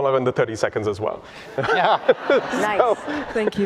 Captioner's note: laughter